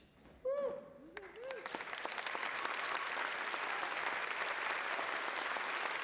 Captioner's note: audience applauds and cheers